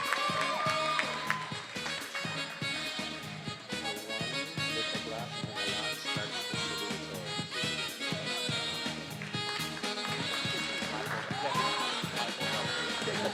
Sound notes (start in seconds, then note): 3.8 faculty member speaking faintly